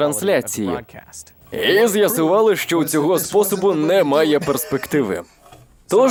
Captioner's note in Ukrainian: Сміється